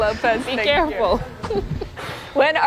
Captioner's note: laughter